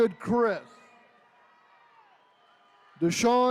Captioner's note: attendees cheering